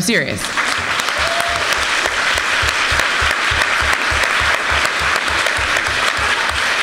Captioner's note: applause